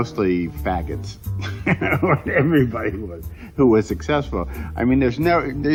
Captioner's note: laughs